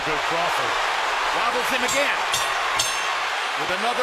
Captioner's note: bell rings